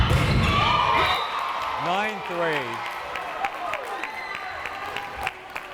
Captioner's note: crowd cheering